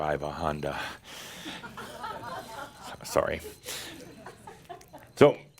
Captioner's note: some chuckles